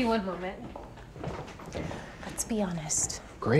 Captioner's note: footsteps retreating